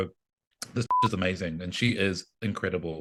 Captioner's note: beep